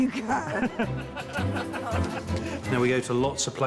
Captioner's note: laughter